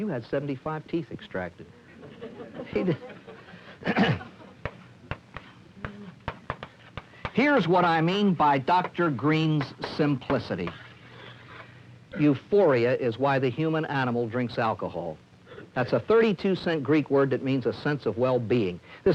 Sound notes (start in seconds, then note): 1.9 laughter; 4.6 chalk tapping